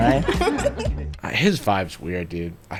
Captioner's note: girls laughing